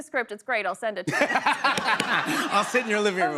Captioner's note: laughter